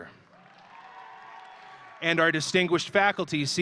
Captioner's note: audience cheering